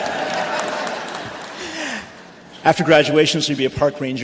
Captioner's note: cheering